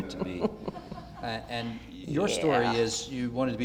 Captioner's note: audience laughter